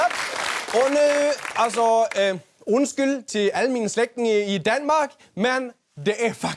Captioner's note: in Danish